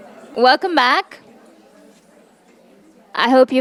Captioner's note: attendees chattering